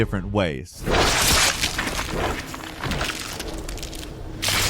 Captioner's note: squelching